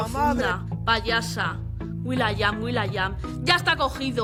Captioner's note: mocking